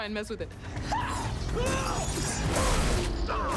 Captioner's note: men yell